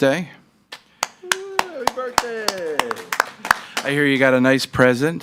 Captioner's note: staffs applaud and cheer